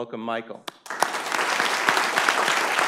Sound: applause

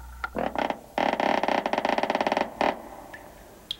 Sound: clock ticking; creaking

